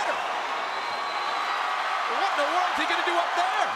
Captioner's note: crowd cheering